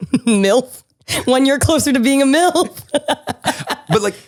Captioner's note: laughs